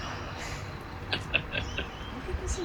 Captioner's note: laughs